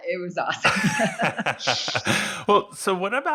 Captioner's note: both laugh